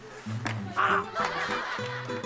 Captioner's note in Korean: 퍽!